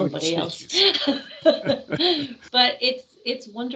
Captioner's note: laughing